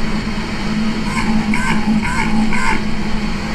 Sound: noise abruptly fluctuating between low & medium pitch; metallic low thrumming

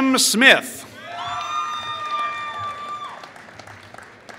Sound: applause

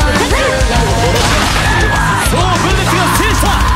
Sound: fatal scream

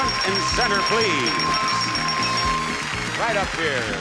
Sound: bell ringing; upbeat music playing

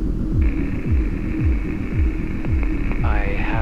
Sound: static buzzing; male Voice

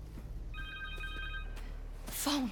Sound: ring

